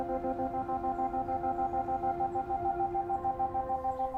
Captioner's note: distant birdsong